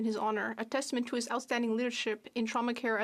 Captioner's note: speaking French